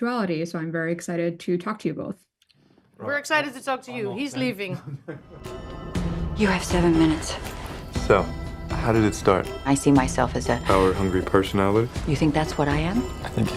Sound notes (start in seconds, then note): 4.7 chuckles